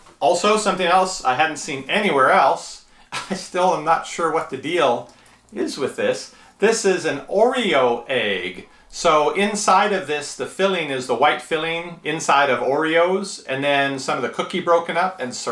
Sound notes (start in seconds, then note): 3.1 laughs